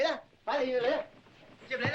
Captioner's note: speaking Chinese